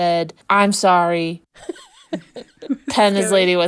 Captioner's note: laughing